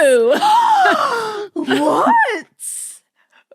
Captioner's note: gasps loudly